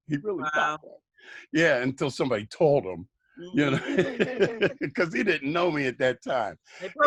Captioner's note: laughter